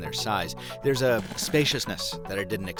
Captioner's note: electronic static